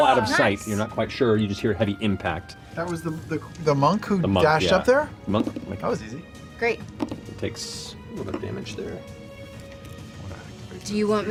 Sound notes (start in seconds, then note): none